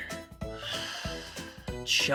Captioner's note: coldly; deep sigh